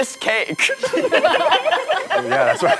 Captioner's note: all laughing